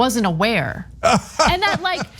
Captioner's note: laugh